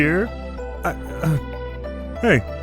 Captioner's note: bi panic noises